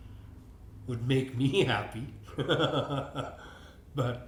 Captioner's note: laughs